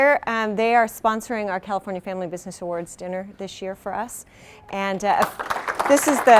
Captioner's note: applause